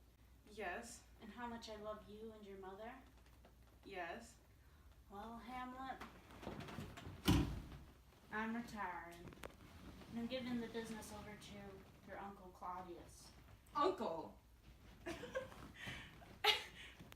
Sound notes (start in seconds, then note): 15.0 laughs